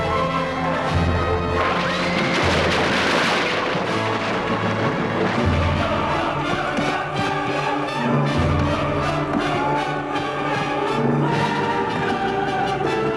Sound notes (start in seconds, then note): 1.9 horse neighs